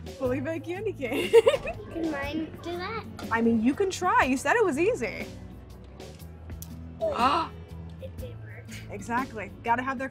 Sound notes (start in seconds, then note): 7.0 gasps